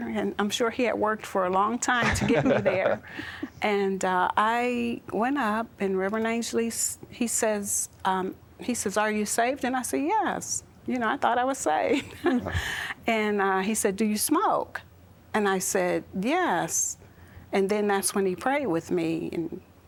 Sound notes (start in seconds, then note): 2.0 chuckling; 2.0 giggling